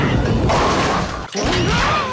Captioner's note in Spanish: sonido de bolos